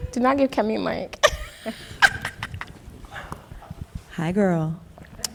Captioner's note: laughing